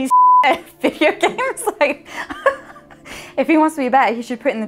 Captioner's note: beep; laughing